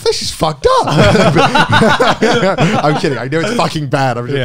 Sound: everyone laughs

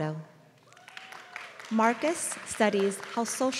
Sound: applause

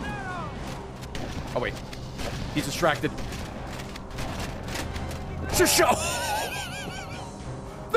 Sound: laughs

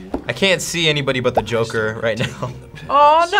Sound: graphic popping

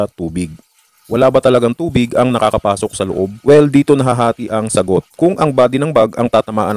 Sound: rainfall

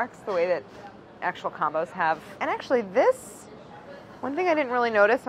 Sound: none

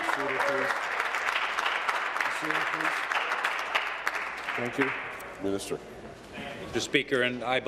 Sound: applause

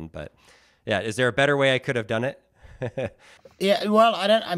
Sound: giggles

